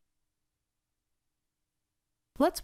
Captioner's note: silence